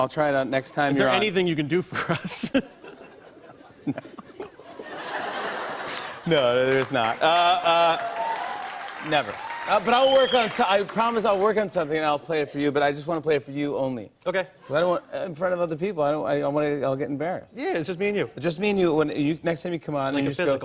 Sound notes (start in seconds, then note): 1.9 laughter; 2.0 laughing; 6.6 cheers and applause